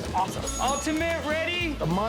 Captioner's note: bell dings